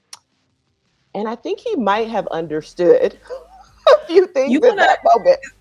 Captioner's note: laughing